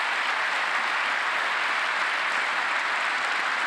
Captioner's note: applause